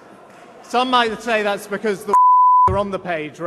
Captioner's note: beep